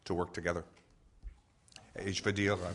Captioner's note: in French